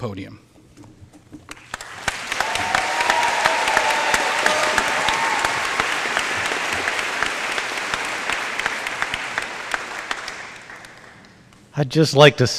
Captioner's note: applause